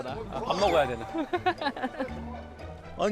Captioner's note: kekeke